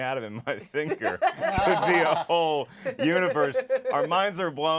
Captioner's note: laughs